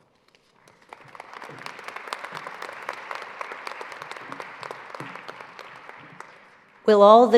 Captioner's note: applause